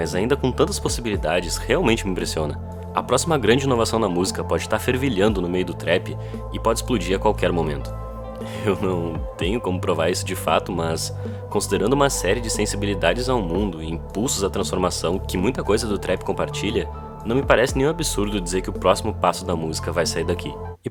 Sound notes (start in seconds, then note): 7.7 scoffs